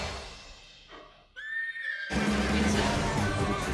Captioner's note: Maximus neighing